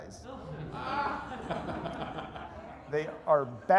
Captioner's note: laughter